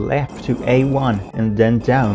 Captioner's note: concrete noises